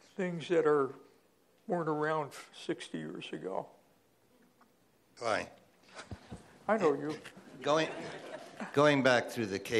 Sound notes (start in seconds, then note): 5.3 voiceover; 7.6 laughter